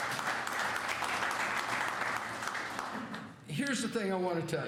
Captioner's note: applause